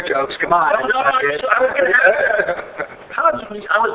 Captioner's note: laughing